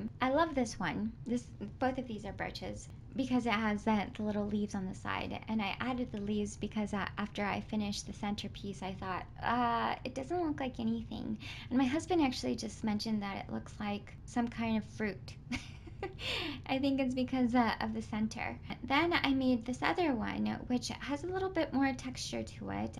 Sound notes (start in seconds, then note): 15.5 chuckles